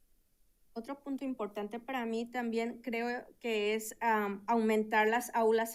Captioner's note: speaking in Spanish